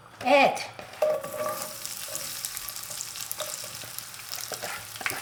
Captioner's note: oil sizzling